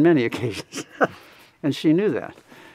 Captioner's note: laughs